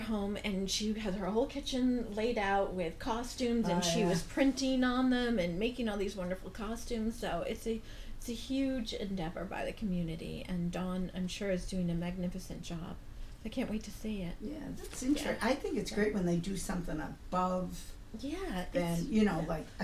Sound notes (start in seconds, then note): 14.5 voiceover